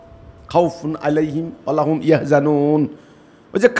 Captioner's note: Arabic